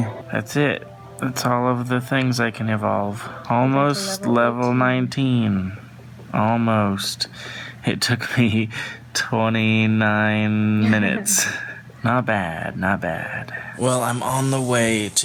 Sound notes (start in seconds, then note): 8.2 snickering; 10.8 laughs